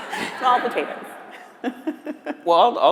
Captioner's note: laughs